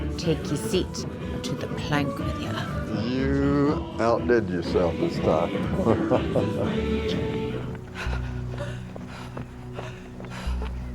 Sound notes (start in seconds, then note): 5.5 laughs